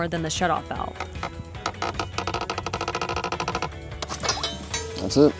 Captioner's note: twisting sounds